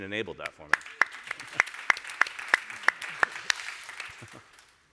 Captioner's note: audience applauds